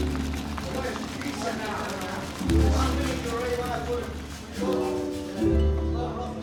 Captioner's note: people talking; gentle slow music